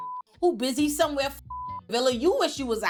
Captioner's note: beep; beep